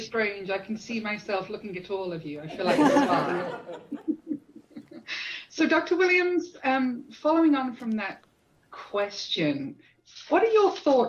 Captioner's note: laughter